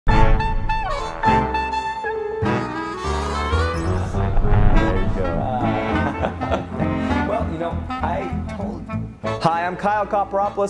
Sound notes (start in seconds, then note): 0.5 cheery music; 5.4 men laugh